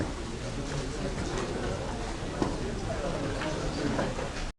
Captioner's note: students chattering